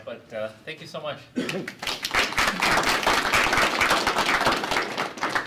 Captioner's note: applause